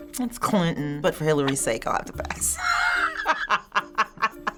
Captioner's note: laughing